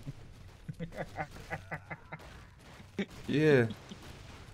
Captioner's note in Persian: خنده